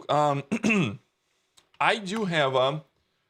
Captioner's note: clears throat